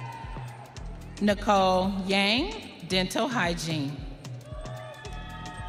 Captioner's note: audience cheering; audience cheering